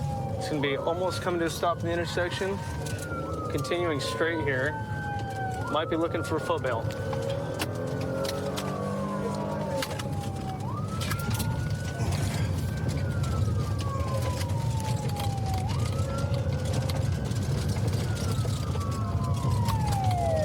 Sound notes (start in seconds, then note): 11.5 siren wailing